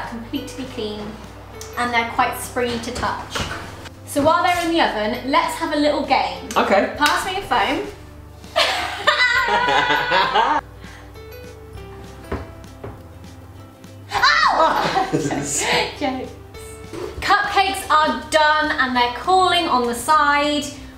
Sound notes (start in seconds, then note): 8.5 both laugh; 14.6 laughter